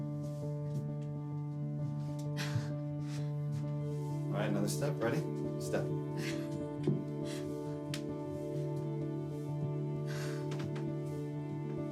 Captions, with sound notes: (soft music continues) (Cassie chuckling) All right, another step, ready? Step.